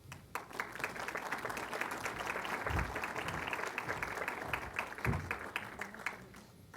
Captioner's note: applause